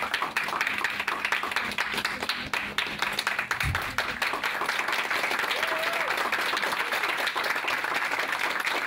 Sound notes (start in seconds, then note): 5.2 audience cheers